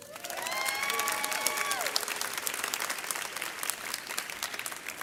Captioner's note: audience cheers